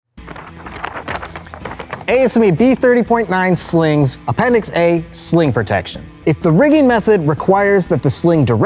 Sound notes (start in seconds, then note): 0.1 book rustling